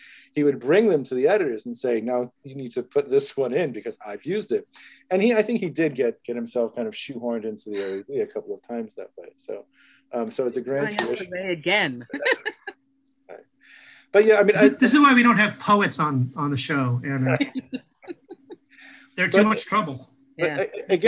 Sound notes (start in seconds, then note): 11.8 laughs